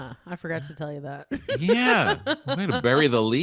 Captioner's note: laughs quickly